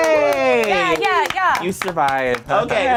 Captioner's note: group claps